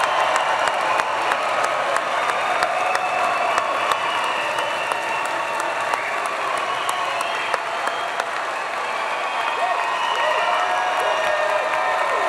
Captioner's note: cheers; applause